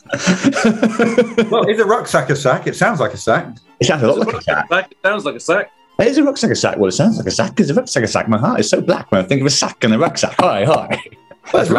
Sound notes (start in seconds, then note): 0.0 laughing; 0.0 sniggering; 6.0 raps